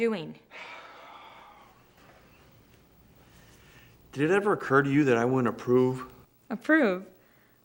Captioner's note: sighs